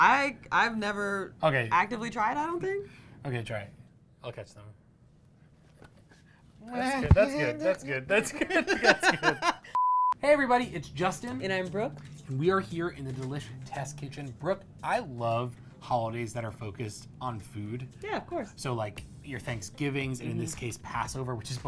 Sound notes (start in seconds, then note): 8.2 laughing